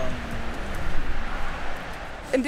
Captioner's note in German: Verkehrsrauschen